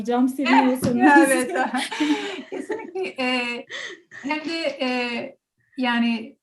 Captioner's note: laugh